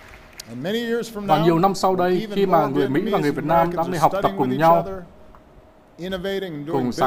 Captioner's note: applause